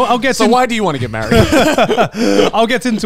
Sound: all laughing

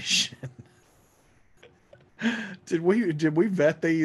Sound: laughs

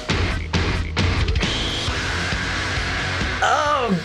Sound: screaming

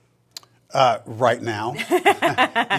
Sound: laughing

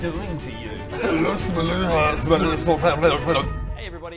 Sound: speaking in tongues

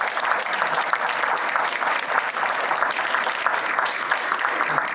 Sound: applause

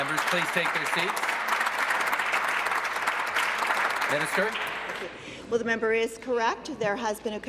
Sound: applause

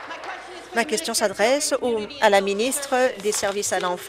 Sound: applause

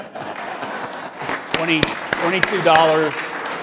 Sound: audience applauding

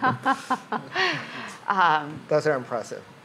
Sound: laughs

